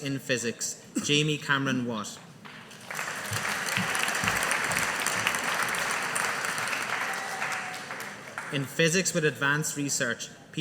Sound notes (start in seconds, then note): 2.6 audience applauding